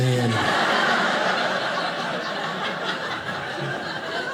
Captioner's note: audience laughing